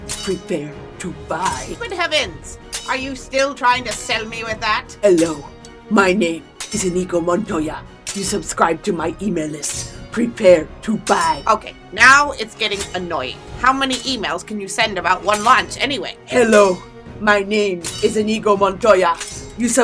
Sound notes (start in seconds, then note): 2.6 metal clanging; 17.8 metal clanging